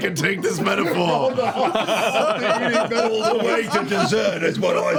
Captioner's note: laughter